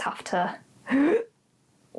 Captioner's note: inhales